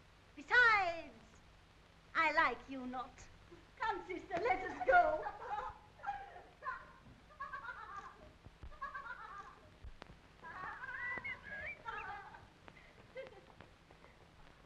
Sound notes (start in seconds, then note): 6.1 laughing